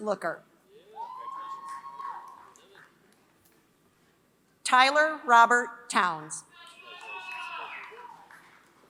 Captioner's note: applause